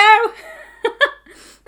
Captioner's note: laughing